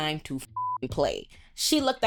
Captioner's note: beep